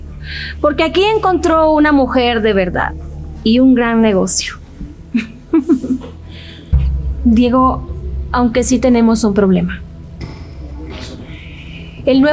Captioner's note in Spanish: risas